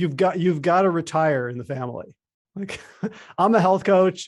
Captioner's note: laughs